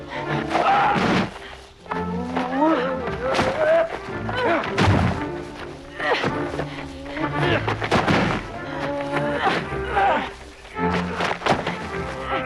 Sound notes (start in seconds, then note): 1.2 body slamming